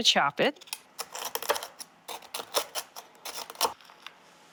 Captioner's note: knife rasping